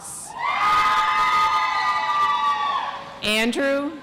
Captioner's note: audience applauds